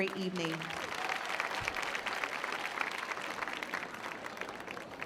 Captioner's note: clapping